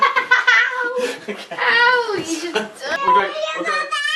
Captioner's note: laughing